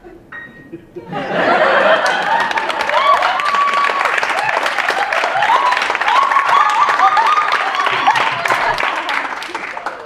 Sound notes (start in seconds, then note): 1.9 applause